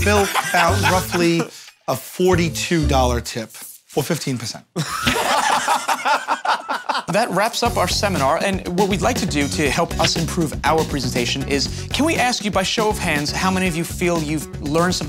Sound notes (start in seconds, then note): 4.7 Joe and Q laugh